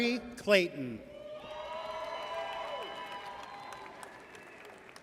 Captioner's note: audience cheers